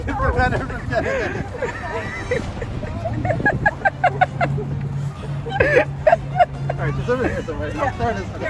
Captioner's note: laughter